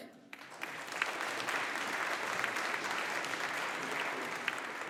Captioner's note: audience applauding